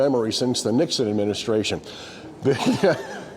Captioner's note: laughing